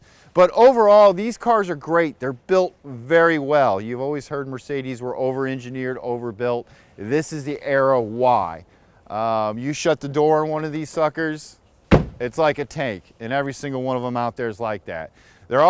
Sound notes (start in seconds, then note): 11.9 solid slam